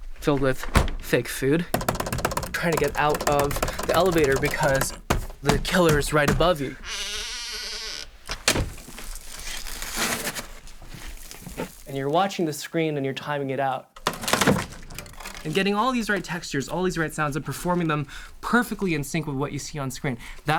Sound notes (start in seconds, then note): 0.0 opens and shuts the door; 6.8 door creaks and slams; 8.8 shoveling; 14.0 wood rips